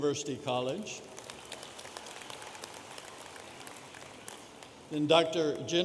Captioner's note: audience applauding